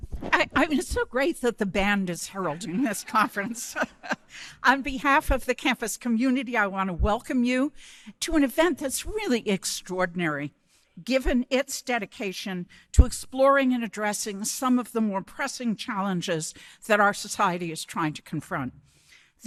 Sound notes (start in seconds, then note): 2.4 laughing